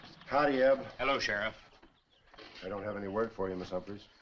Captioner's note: none